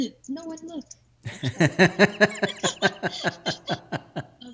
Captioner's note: laughing